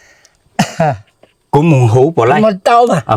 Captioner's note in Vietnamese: hắng giọng